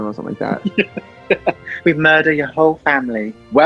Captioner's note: laughs